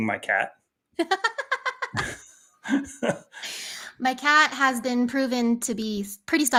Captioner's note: laughs